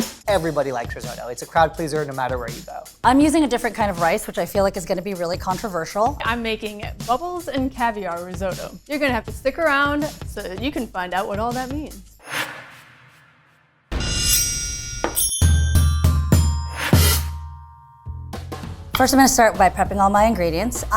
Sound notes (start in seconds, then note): 0.0 upbeat music; 14.0 bright music; 14.2 knife slices